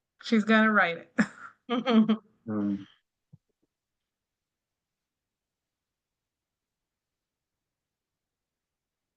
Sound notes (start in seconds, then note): 1.6 chuckles